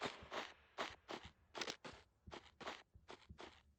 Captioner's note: noises of someone walking